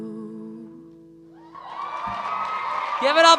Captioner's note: cheering